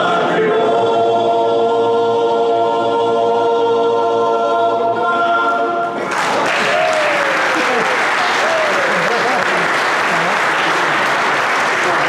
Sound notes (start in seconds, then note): 6.0 applause